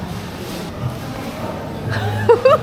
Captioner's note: scratching